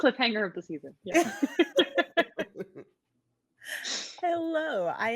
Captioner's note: both laughing